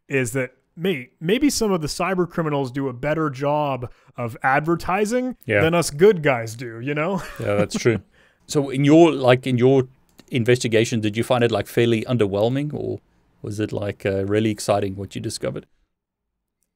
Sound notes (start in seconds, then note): 7.1 chuckling